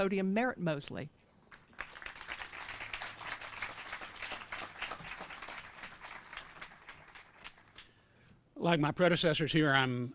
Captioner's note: applause